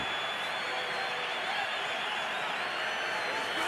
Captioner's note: crowd cheering